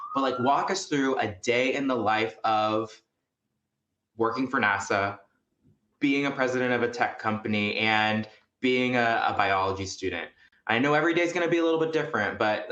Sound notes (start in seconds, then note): none